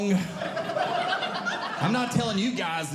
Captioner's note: audience Laughing